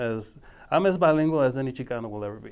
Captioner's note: speaking foreign language